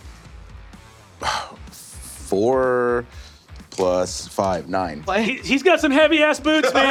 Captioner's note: sighs